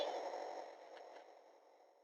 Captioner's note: static